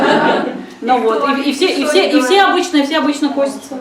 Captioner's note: laughter